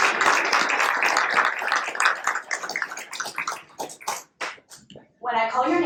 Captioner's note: applause